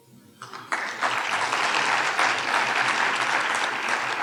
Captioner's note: audience applauding